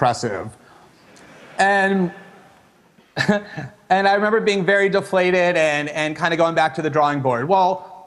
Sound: chuckles

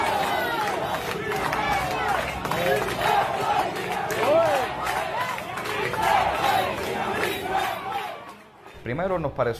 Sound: people chanting “Yes, we can!”

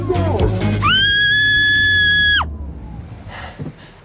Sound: loud scream

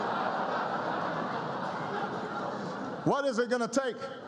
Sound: laughter

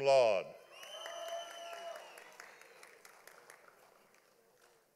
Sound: audience applauding

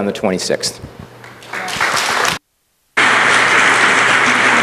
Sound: applause

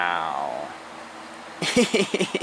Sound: Treefrog laughing

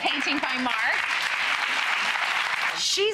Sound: audience applauds

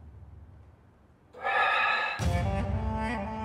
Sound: exhales sharply

